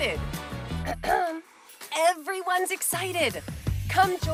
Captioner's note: clears throat